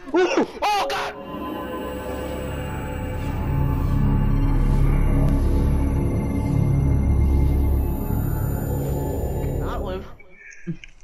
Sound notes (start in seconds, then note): 0.7 intro Noises